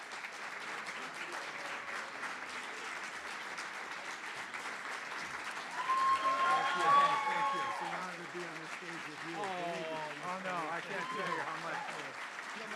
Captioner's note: applause & Cheering